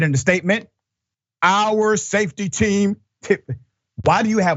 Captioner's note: laugh